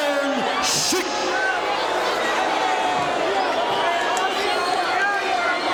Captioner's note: audience shouting